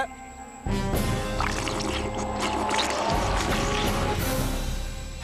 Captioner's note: slurping